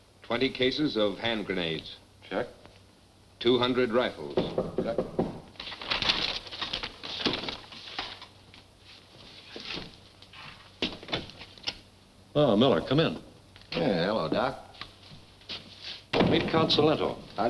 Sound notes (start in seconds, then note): 4.2 person knocking; 11.3 door opens